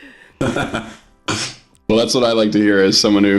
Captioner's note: laughing